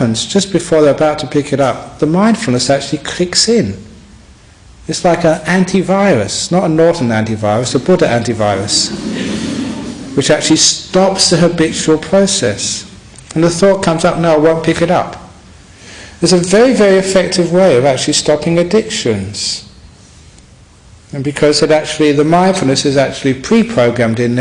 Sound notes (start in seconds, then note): 8.6 laughter